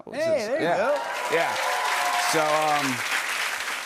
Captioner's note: cheers and applause